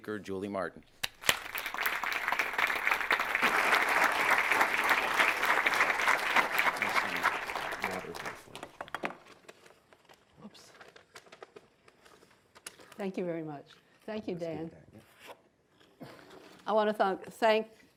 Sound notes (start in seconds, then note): 1.0 audience applause